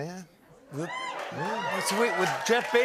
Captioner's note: cheers and applause